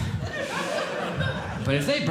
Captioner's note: audience Laughing